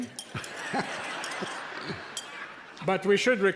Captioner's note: everyone laughing